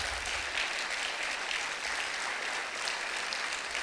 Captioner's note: clapping